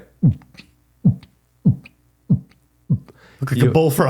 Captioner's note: mouth sounds